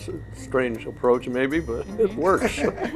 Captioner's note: laughs